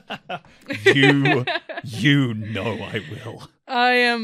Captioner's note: laughs